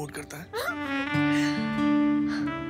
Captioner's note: Laughs